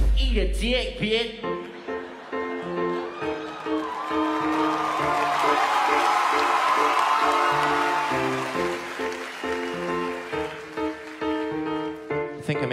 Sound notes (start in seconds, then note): 1.5 piano; 4.2 audience applauses; 4.2 piano; 7.0 audience applause slowly ends; 7.0 piano